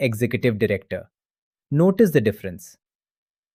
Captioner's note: pause